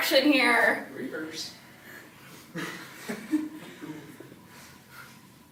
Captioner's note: chuckles